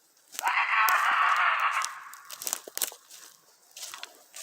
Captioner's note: unearthly screeching